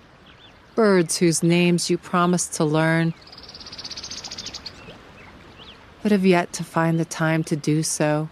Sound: insistent, distinctive bird call

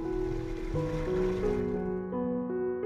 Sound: gentle music; water whooshing

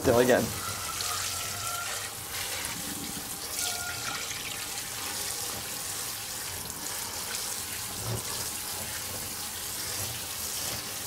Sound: water running

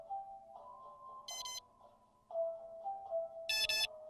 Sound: double scanner beep; double scanner beep, longer and lower key

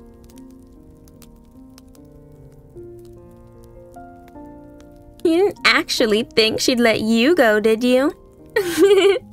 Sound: laughs

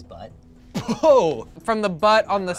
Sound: laughs

